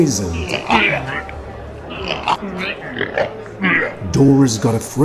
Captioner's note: people vomiting noise